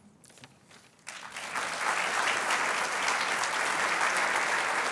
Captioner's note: applause